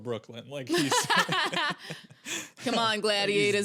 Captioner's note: laughing